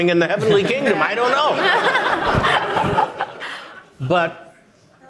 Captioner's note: audience applauding